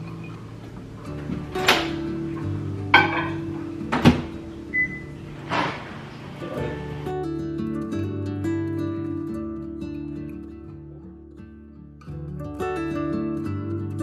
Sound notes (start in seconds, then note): 2.9 bowl banging; 4.4 microwave beeping; 6.7 slow music